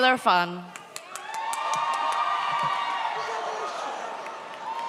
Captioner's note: audience cheers